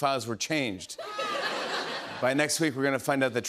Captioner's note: laughter